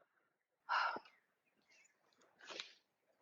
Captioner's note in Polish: westchnienie